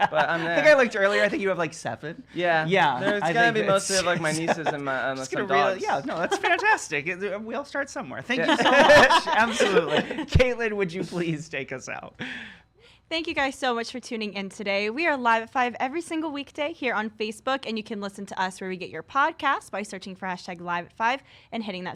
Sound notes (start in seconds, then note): 0.0 laughs; 8.3 laugh